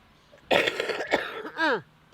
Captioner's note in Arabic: سعال